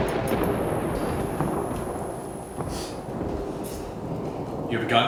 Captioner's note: thunder clapping